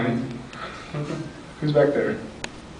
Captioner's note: laughs